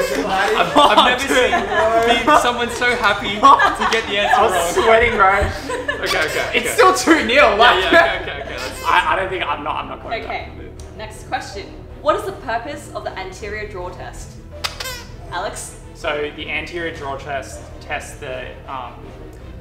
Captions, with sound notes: - I've never seen someone so happy to get the answer wrong. - I'm sweating now. - Okay, okay. - It's still 2-0. - Yeah, yeah, okay, okay. - I don't think... I'm not, I'm not coming back. - Okay. Next question. What is the purpose of the anterior drawer test? (squeaks) - Alex. - So, the anterior drawer test test the,